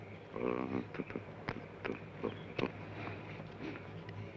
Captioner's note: Joshua hums melodically